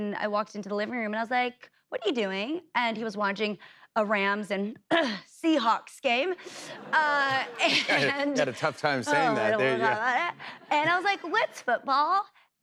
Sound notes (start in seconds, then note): 4.6 coughs